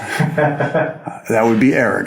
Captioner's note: producer laughs